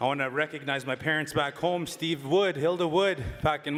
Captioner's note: cheering